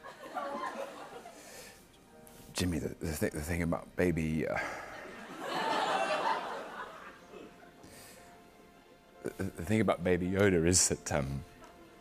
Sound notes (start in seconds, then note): 4.5 sighs; 4.7 laughter